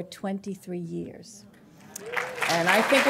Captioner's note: applause